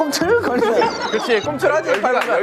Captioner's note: Tertawa terbahak-bahak